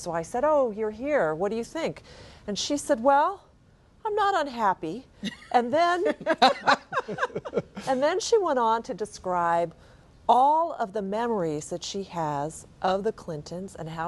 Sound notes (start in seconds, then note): 5.2 laughter